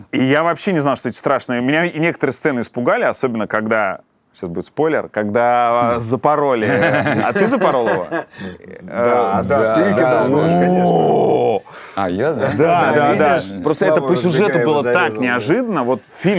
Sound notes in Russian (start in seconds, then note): 6.6 смеются